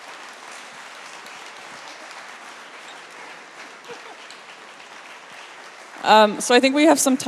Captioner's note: applause